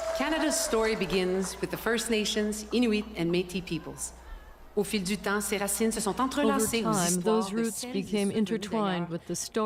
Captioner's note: cheers and Applause